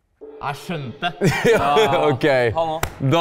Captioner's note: laughs